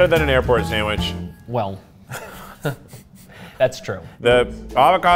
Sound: chuckles

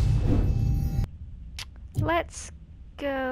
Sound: tsk

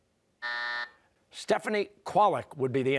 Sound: buzzer

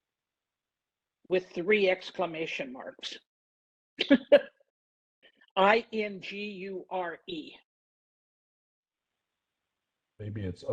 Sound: laugh

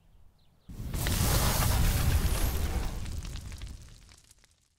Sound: fire burning

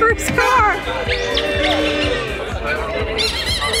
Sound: people cheering; squeaky toy squeaking

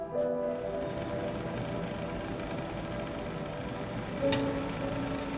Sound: machine whirring softly

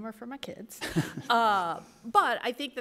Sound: laughter

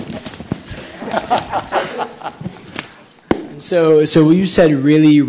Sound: laughing

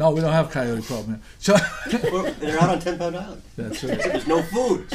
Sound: voiceover

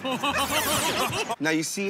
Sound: laughter

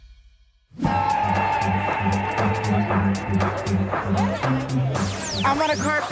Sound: crowd cheering; techno music

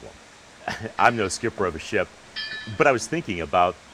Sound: chuckles

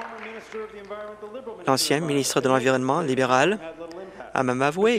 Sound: applause

